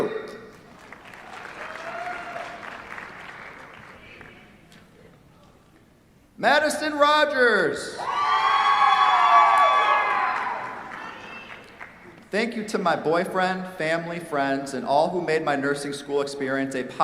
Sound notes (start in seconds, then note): 0.5 applause; 8.0 cheers, applause